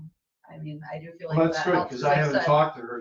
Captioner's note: overlapping chatter